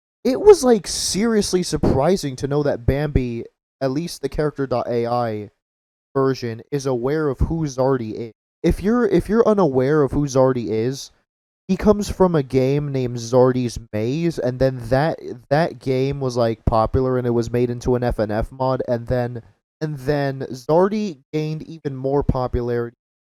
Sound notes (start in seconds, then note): 18.0 mic cut out